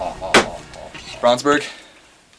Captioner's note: slam